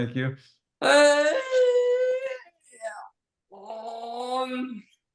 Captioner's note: murmurs